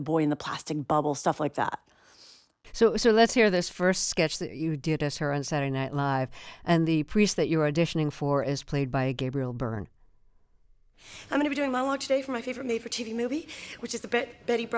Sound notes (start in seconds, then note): 9.9 soundbite of tv show, "saturday night live"